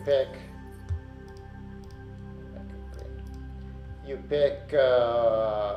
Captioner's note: mouse clicking